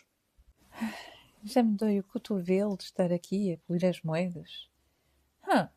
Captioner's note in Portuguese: suspiro!